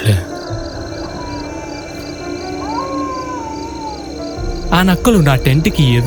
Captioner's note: jackals howling